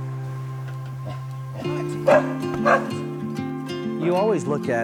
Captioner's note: dog barking